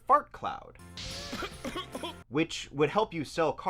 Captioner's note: coughs as the fart cloud envelopes him